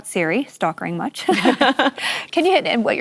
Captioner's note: laughter